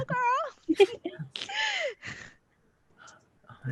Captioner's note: laughing